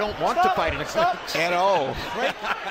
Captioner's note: laughs